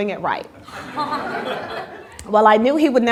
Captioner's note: laughter